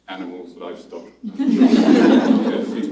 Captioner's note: laughter